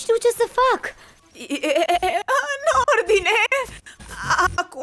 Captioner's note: whimpers; glitching continues